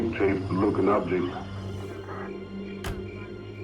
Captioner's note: insects chirping